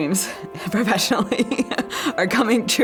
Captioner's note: laughing